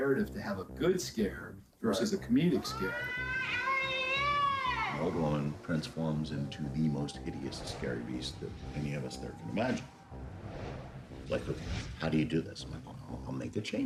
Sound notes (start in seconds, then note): 2.5 screaming